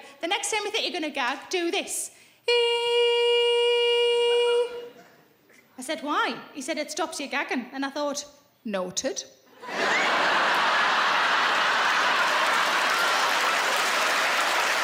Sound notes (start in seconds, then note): 2.5 high pitched singing; 9.6 laughing; 11.5 audience applauding